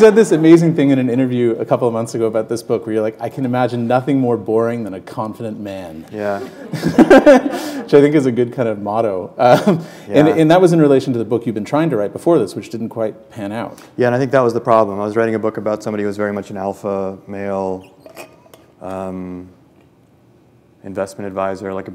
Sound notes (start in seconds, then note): 6.3 chuckle